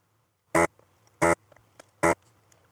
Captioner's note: buzzing